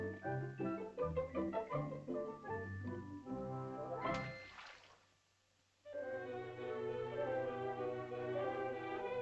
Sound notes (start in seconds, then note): 4.1 water splashes; 5.9 whimsical music